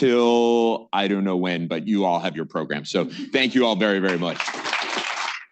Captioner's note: applause